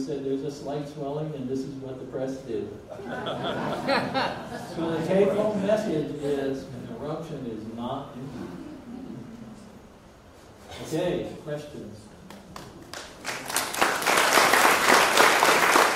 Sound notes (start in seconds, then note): 2.9 audience laughs; 12.3 audience applauds